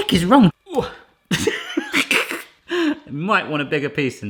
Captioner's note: laughs